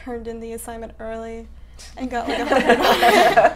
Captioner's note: laughing